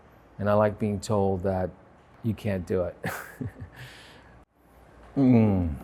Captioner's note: chuckles